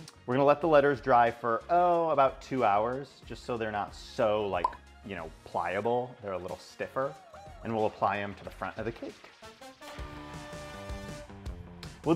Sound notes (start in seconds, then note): 4.6 graphic pops; 9.8 groovy music